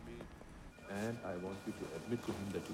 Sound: phones ringing

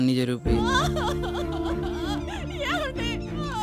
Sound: mom crying hysterically

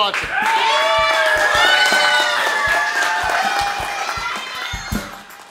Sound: people cheering and clapping

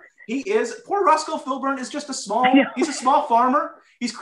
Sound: laughter

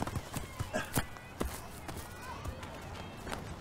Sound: Issac grunts

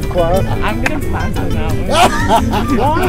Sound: laughter

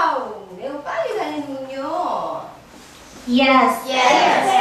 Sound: speaking foreign language

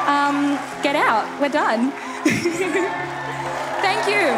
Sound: laughs

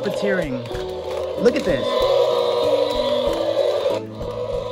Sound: dinosaur roars

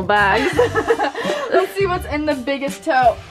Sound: laughter

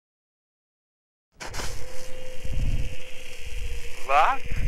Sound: air crackles softly

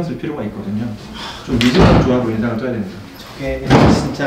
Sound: chair noise

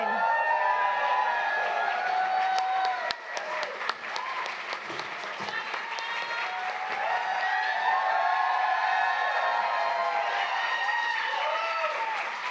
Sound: applause

